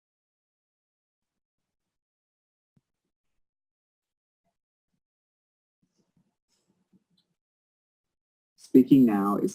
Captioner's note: pause